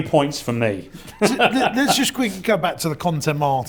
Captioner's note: laughs